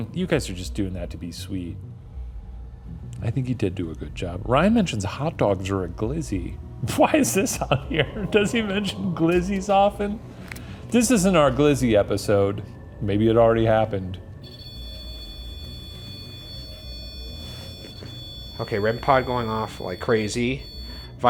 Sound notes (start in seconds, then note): 7.3 laughs; 14.2 continuous beeping